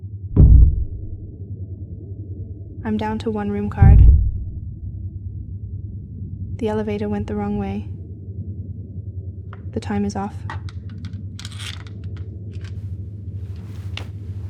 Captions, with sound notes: (muffled door slam) I'm down to one room card. (muffled door slam) The elevator went the wrong way. The time is off.